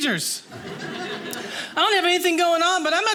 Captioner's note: audience laughing